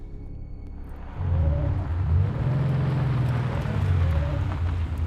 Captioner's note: car engine roaring